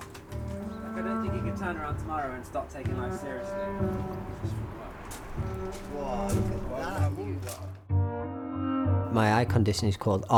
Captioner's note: reflective cello; muffled chatter